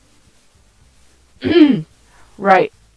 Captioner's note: clears thoat